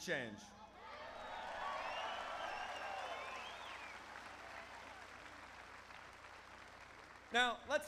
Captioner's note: applause